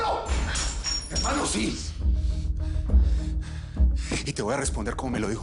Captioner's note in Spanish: Jadeos de ira